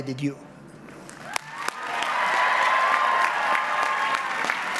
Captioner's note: audience applauds